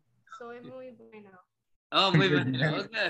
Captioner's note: speaks in Espagnole; murmuring